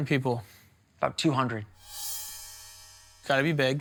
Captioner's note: bell chiming